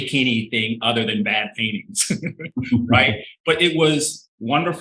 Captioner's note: chuckling